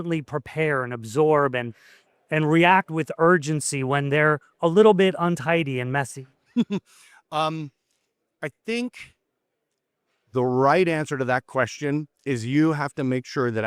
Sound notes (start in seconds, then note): 6.5 giggles